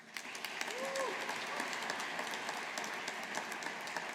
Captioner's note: audience applauding